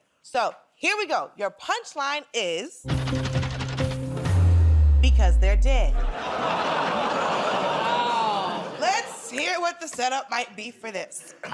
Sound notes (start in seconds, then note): 6.1 laughter